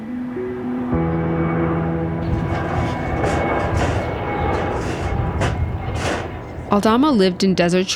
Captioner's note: plane humming